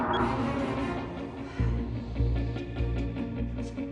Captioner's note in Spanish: Bip